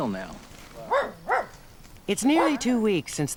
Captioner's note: dog barks